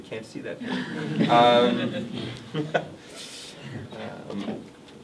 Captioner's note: everyone laughs